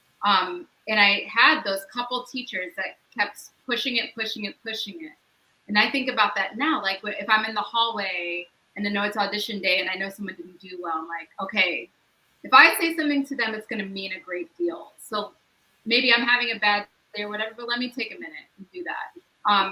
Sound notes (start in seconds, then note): none